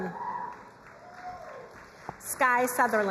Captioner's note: crowd cheering and applauding